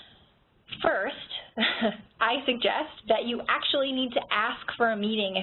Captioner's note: chuckles